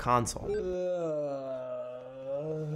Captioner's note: moaning